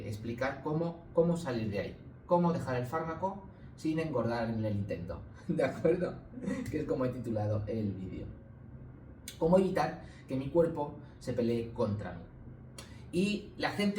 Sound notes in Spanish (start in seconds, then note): 6.4 risas